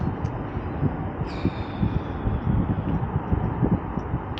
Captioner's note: wind